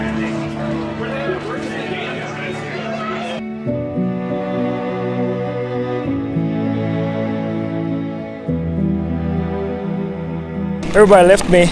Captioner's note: crowd chattering